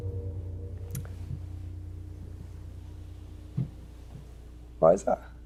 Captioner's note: clapping; soft thudding